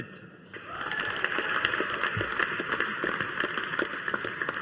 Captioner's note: audience applauding